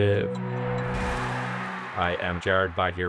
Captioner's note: cheering, splash